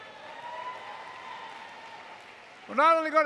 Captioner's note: applause